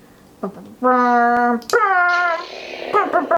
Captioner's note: makes lightsaber noises, even though the lightsaber does that already